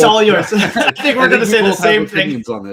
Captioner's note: all laughing